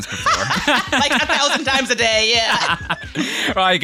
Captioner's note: laughs